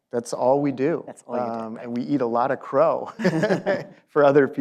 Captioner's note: laughs